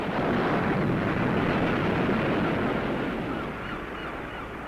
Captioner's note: seabirds squawking